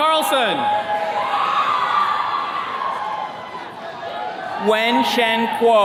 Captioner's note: attendees cheering